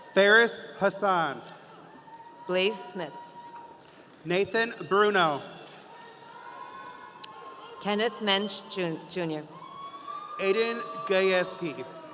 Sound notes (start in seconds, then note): 9.5 audience cheering